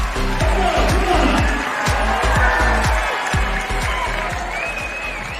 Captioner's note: cheering